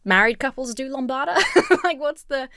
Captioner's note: laughs